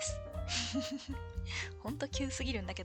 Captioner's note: laughs